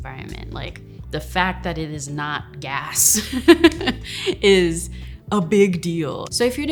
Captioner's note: laughs